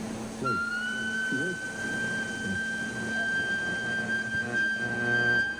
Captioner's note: high pitched whine